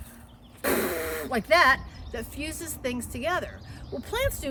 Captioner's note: noisily blowing